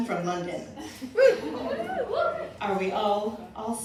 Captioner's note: cheering